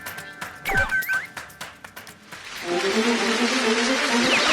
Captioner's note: Scratch